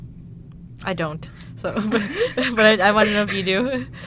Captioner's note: laughs